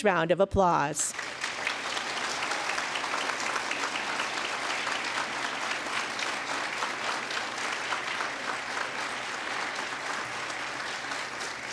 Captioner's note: applause